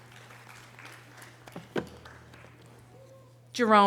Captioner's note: audience applause